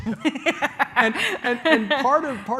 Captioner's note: laughs